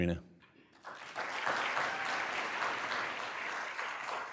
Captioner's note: applause